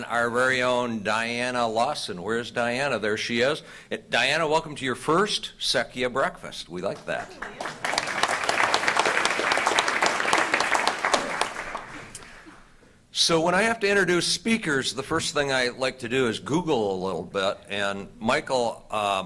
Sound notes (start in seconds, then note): 11.5 applause